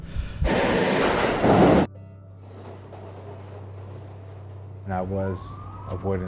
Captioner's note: train roaring; tense music